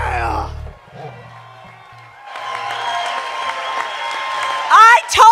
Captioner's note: cheers and applause